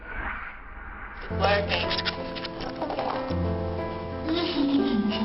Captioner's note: whooshing; dramatic music; laughs